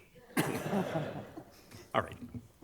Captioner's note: attendees laughing